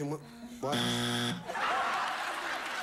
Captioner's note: buzzer sounds; audience laughing